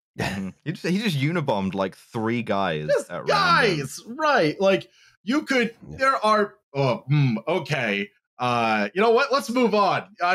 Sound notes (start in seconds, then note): 3.2 noise of disbelief